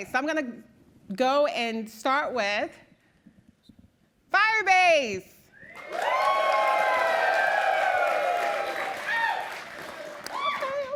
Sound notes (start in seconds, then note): 5.7 cheering